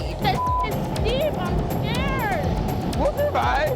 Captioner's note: beep